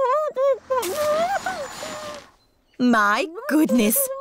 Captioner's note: muffled groans